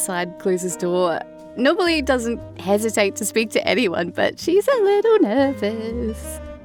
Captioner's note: singsong